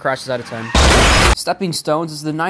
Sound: car crash

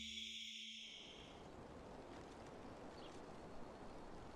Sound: birds chirping

